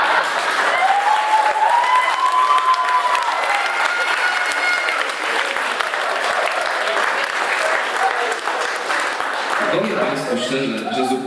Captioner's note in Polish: Aplauz